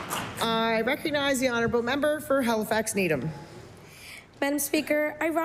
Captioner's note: applause